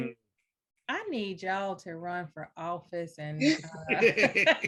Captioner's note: laughs